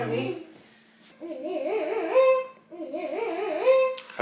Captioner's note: baby mumbling